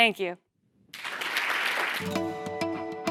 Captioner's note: applause